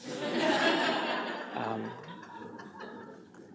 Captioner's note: laughter